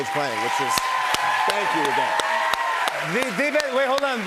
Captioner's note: cheers and applause